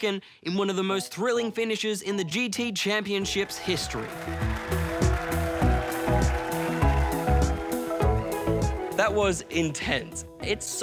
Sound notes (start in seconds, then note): 3.2 cheering, applause